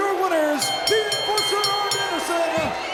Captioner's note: bell rings